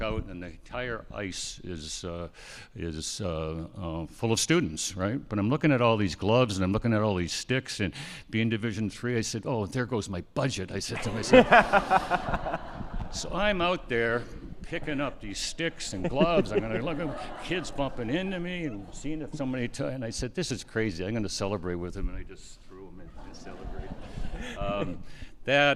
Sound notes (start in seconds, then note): 10.9 all laughing; 22.9 attendees laughing